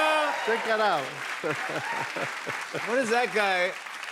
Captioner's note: laughs